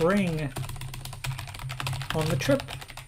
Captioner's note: keyboard keys clank